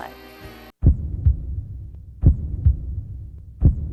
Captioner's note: deep heart beat